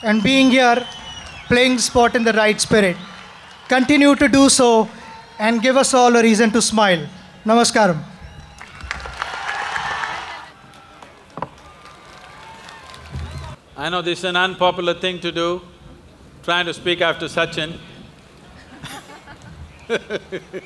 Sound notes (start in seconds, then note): 8.4 applause; 18.5 laughs